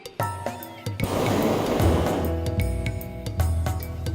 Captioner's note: burner hissing